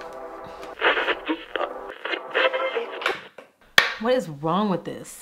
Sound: radio tuning

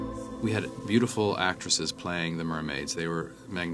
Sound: none

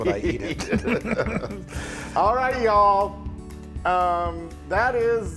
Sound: laugh

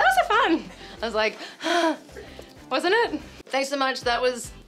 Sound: sighs

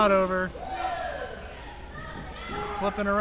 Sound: crowd yelling

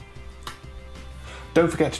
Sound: clap

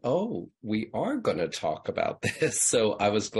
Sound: laughs

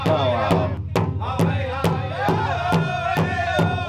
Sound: tribe members chanting

